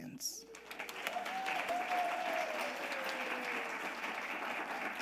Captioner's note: audience applauding